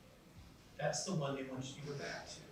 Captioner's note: none